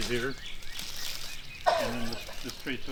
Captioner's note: birds chirping; rustling leaves